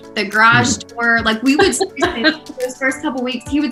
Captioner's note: laughter